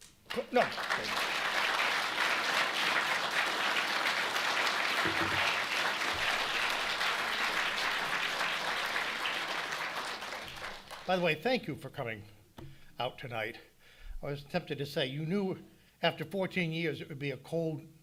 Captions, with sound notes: [audience applauding] [applause continues] By the way, thank you for coming out tonight. I was tempted to say, you knew after 14 years it would be a cold,